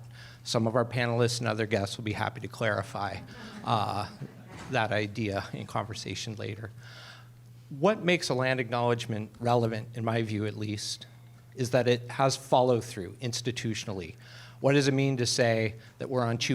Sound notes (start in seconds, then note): 3.2 laughter